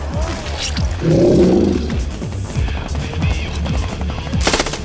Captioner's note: gunshots; suspenseful music